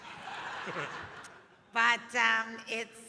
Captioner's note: audience laughing